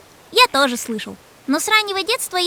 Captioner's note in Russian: смеется